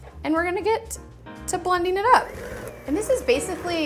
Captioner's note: mixer whirring